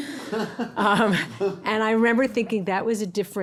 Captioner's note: everybody laughing